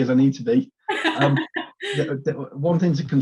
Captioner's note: laughs